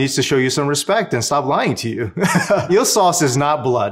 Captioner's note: laughs